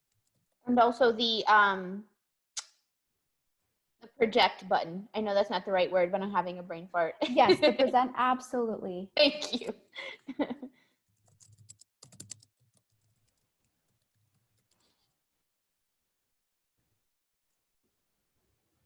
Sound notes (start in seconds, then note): 7.3 laughs; 10.0 more laughter